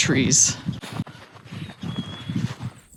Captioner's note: chickadee call